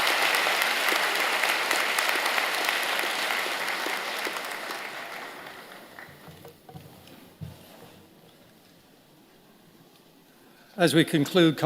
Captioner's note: applause